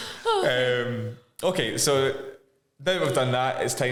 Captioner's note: laughing